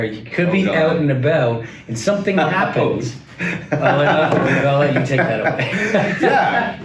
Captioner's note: laughing